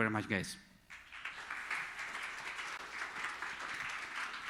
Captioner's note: audience applauding